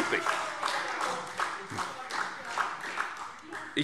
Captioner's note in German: Demonstrativer Beifall SPD